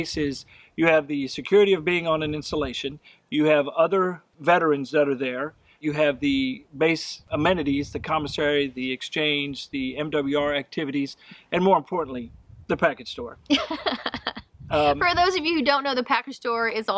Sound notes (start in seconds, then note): 13.5 laughs